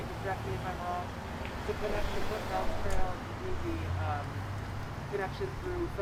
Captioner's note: car noise